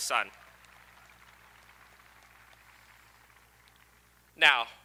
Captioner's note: audience applauding